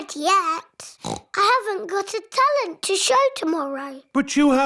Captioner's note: oinks